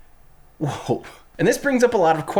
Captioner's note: chuckles